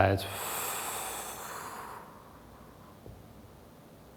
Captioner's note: exhales softly